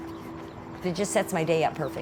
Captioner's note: jogger running